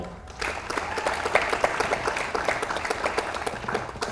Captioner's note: audience applauds